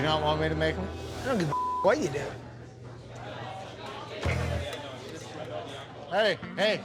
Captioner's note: beep